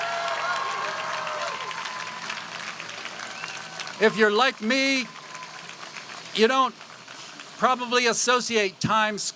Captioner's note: applause